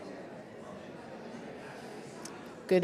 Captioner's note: audience talking